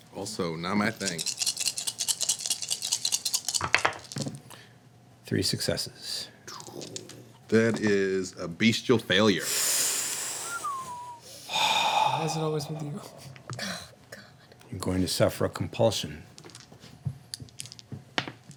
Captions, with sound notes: Also not my thing. (dice rattling) Three successes. That is a beastial failure. (sucking in air) Why is it always with you? God, god. You're going to suffer a compulsion.